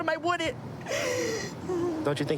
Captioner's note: sobbing